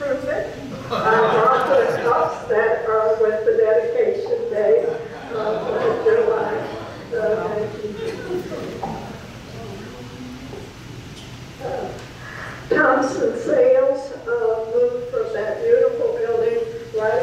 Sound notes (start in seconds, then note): 0.7 audience laughs; 5.6 audience gasping and murmuring